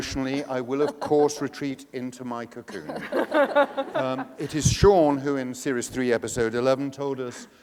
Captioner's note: laughter